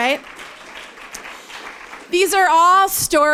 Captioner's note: applause